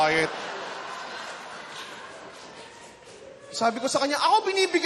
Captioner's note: laughter